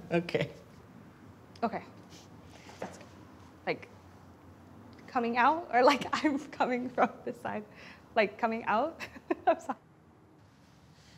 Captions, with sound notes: Okay. - Okay Like, coming out or I'm coming from this side? Like coming out? [laughs] I'm sorry.